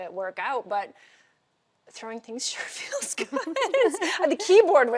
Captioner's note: laughing